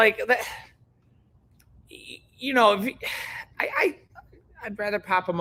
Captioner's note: sighs